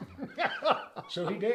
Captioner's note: laughs